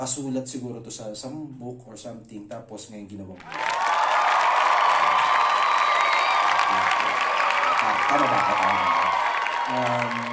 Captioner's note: applause